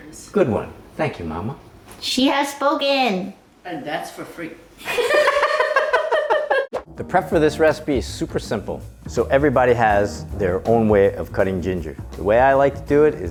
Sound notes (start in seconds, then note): 4.8 laughing